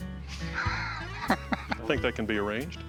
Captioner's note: laughs